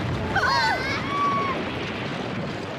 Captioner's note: crash; girls shriek